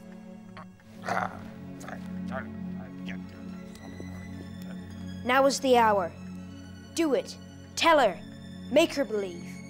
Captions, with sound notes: (Grandpa grunts) - Now is the hour. Do it, tell her, make her believe.